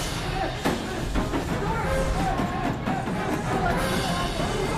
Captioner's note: pounding on door